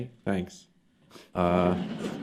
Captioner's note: laughter